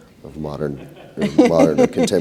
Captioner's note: laughter